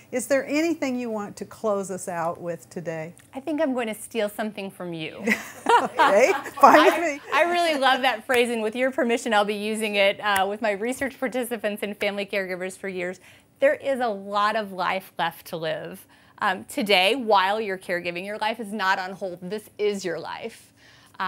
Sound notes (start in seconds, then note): 5.3 laughs